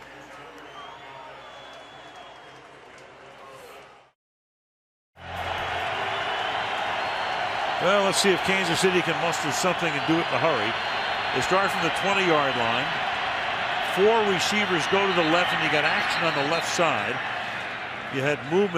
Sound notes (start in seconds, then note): 0.1 pa announcement; 6.1 cheering